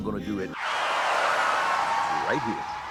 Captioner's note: tires screech